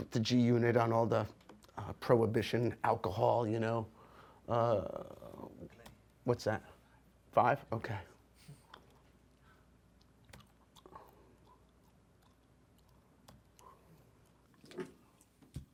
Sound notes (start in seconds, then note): none